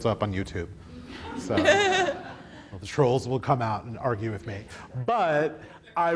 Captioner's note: audience laughs